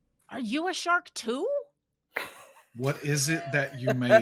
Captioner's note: people chuckling